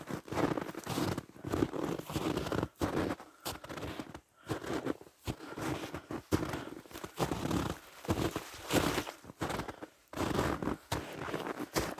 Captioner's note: crunching snow